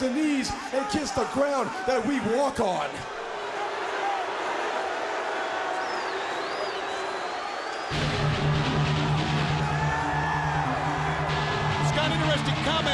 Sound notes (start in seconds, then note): 3.3 crowd chatter; 8.5 crowd cheering